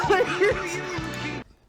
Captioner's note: laughter